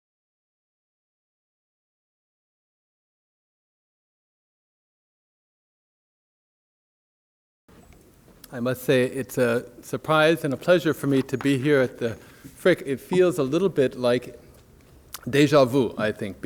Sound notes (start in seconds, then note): 8.0 voiceover